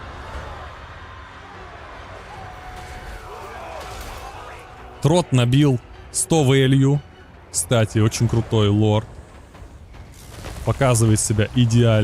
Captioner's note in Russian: крик